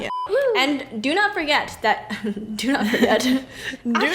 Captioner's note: laughs